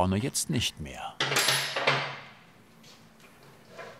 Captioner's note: loud clinking of metal